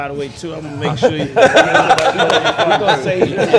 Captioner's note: laughter drowns out